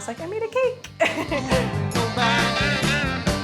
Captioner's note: laughs